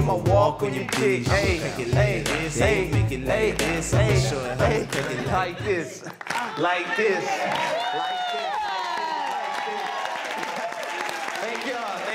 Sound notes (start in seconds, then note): 8.5 clapping and cheering; 11.9 audience cheering